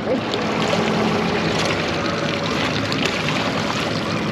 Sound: boat engine idling; fish splashing

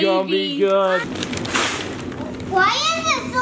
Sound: paper tearing

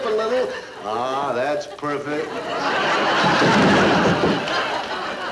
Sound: audience laughing

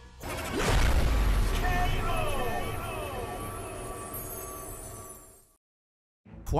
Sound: announcer shouting K.O. echoes

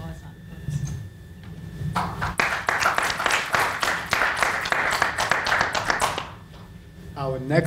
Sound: panel applauds

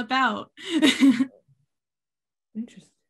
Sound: laughing

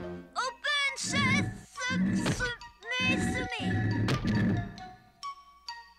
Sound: stammering

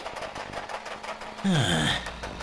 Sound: groans

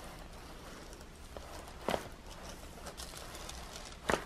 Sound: cracking

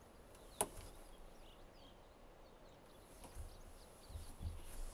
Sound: clothes rustling

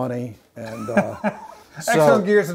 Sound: laughing

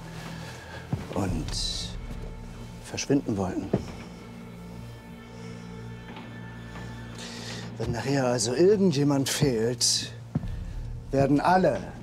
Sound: door clicks

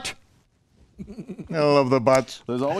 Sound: laughs

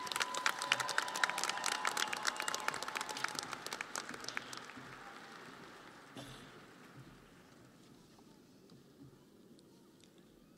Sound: audience applauding

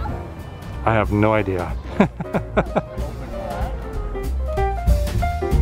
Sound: laughter

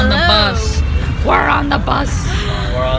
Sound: gasp

